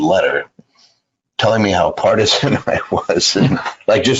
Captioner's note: laughs